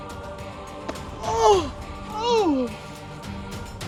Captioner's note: fearful cry